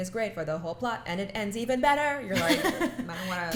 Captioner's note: laughs